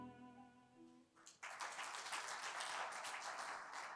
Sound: applause

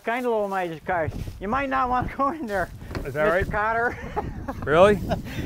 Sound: laughs

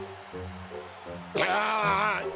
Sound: groan

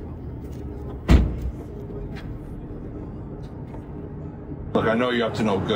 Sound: door slamming

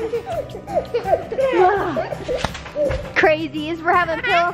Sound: laughing

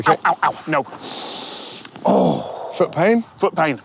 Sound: sharp breath

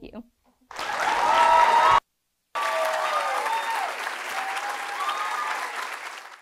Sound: audience applauding; audience cheering

